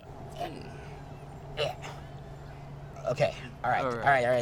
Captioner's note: gags